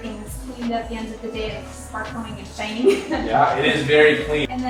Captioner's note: laughter